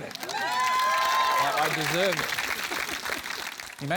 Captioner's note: cheering, applause